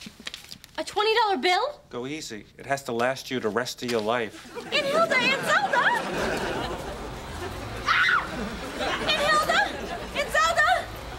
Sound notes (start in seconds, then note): 7.8 screams